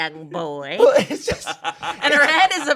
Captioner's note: laughing